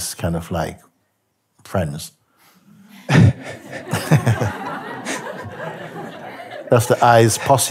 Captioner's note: lachen